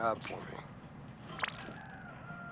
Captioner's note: digital window opening